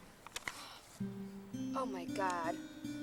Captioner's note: gasps